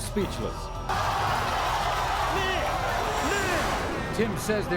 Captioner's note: audience screams